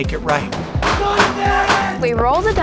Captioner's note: shots ringing; person yelling